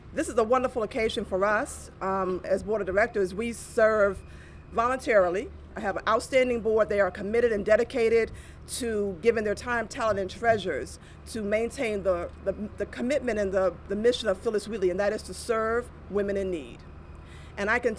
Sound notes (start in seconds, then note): none